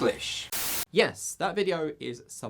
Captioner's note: static